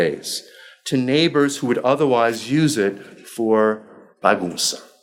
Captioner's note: speaking foreign language